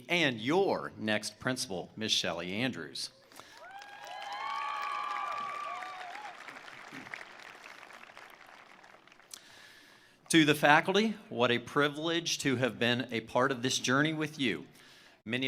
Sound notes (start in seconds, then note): 3.3 attendees cheering; 3.4 attendees applauding